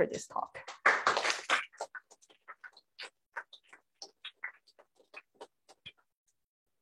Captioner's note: applause